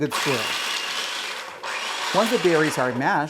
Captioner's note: food processor whirring